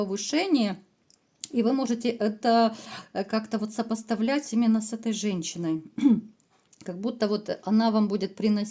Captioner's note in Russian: откашливается